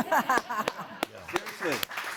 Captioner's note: audience laughing